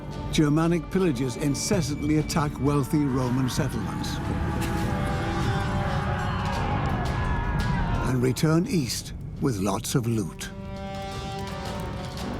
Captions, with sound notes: Germanic pillagers incessantly attack wealthy Roman settlements. (battle cries) And return east with lots of loot.